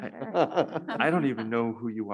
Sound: panelists laugh

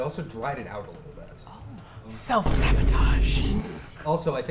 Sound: whispered; dramatic thud

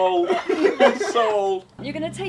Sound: group laughing

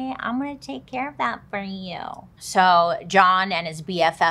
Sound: none

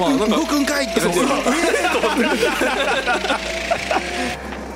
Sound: laughing

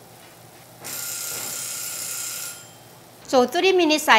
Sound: alarm rings

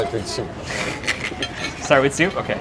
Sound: giggles

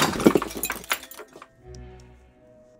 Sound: vial clinking; quirky music

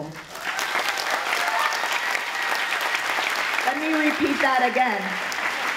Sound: applause and cheeering

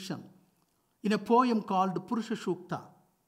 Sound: speaks foreign language

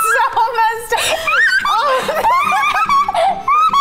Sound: laughs

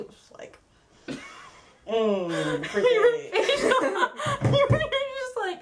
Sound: laughs

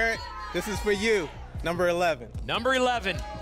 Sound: audience shouting numbers

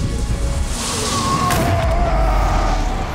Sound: screaming

